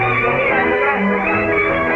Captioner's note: shouting